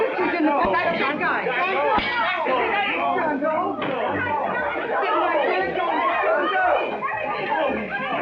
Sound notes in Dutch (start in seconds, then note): 0.0 paniekerig geklets